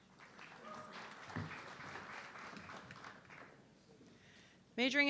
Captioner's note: audience clapping